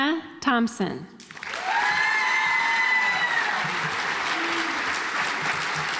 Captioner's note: audience applauds